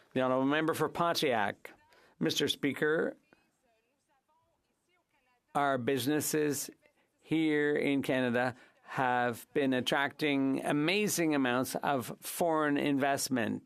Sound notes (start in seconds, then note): 3.5 speaking French